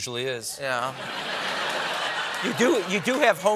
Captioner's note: laughter